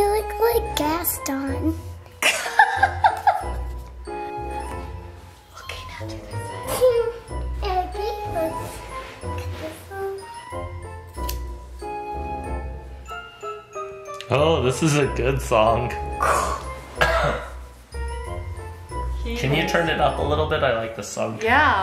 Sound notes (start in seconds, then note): 2.2 laughing; 11.2 scissors snipping